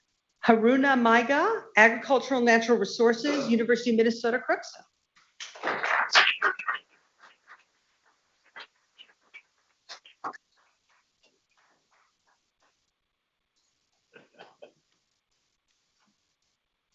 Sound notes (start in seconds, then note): 5.4 people clapping